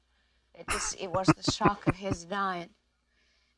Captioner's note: chuckling